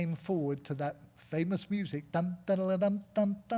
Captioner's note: humming